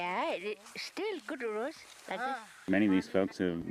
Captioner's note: residents talking